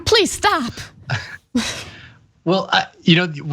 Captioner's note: laugh